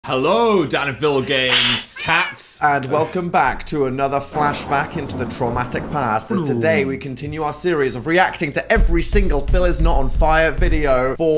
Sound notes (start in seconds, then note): 1.5 hisses; 1.5 cat meows; 3.5 storm rages